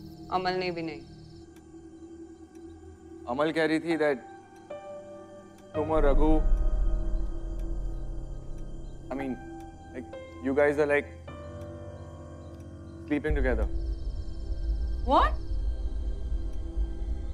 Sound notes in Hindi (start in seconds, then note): none